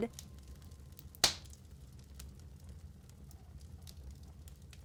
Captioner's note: fire crackling